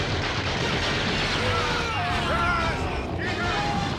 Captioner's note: screams